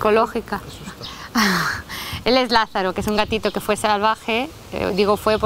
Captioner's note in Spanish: se ríe